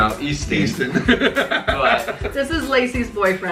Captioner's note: laugh